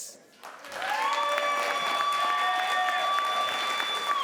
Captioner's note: crowd applauds